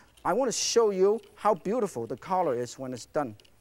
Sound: none

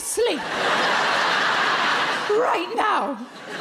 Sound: crowd laugh

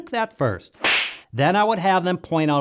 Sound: boxer punch

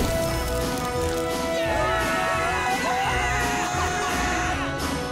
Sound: cheering

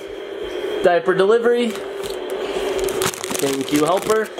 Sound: plastic crinkling

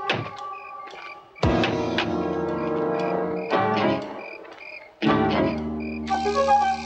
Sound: gun cocks; foreboding music

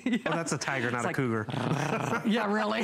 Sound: laughter

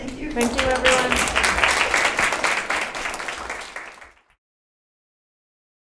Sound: audience applauding

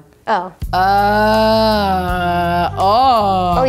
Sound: groaning

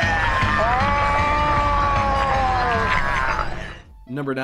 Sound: man yells; gnome yells

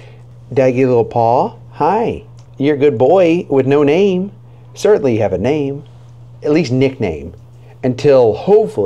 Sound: none

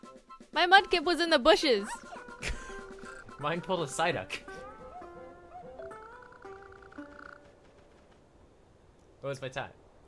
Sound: laughs

